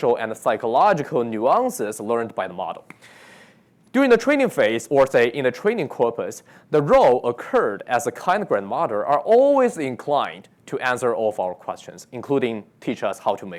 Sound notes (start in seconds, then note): none